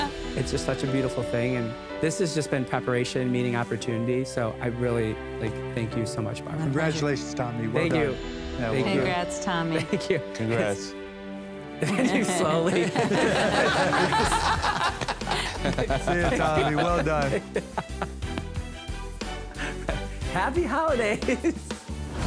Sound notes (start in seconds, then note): 11.8 laughter